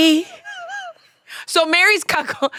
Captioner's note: laughs